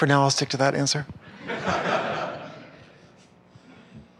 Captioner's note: laughter